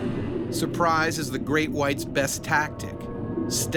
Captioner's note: voiceover